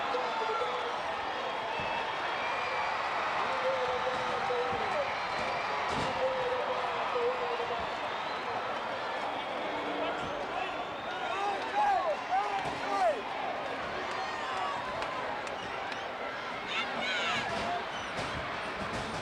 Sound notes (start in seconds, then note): 3.7 crowd cheering